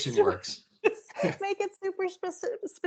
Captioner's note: chuckling